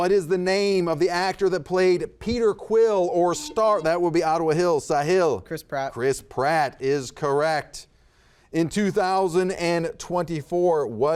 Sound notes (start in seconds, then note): 3.3 buzzer buzzes